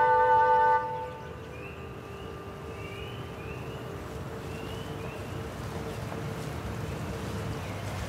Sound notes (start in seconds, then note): 0.8 birds chirping